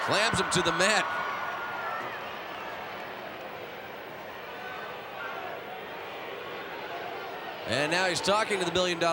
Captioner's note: applause